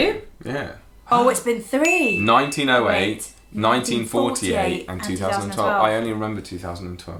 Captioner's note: ding